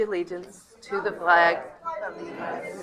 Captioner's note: protestor shouting